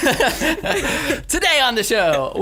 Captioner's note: laughing